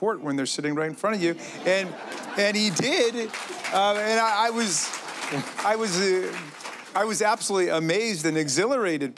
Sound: applause

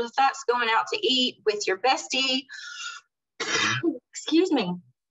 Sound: coughs

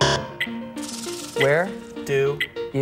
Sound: buzzer

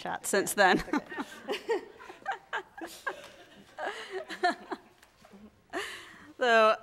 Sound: both laughing and audience laughing

